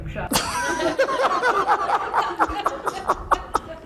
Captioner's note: laughing